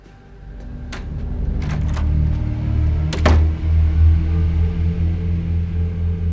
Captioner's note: ominous music; door latch clicking